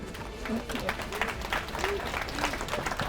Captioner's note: applause